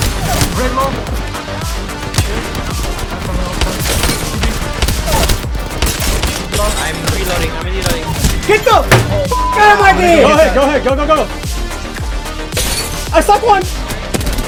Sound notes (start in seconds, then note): 0.1 intense electronic music; 9.2 beep